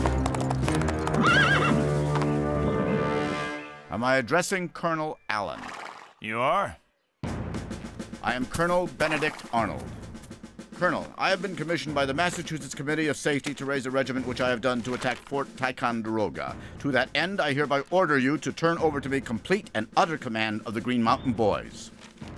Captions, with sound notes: [WHINNIES] AM I ADDRESSING COLONEL ALLEN? YOU ARE. I AM COLONEL BENEDICT ARNOLD. COLONEL, I HAVE BEEN COMMISSIONED BY THE MASSACHUSETTS COMMITTEE OF SAFETY TO RAISE A REGIMENT, WHICH I HAVE DONE, TO ATTACK FORT TICONDEROGA. TO THAT END, I HEREBY ORDER YOU TO TURN OVER TO ME COMPLETE AND UTTER COMMAND OF THE GREEN MOUNTAIN BOYS.